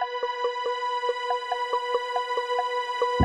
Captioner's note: none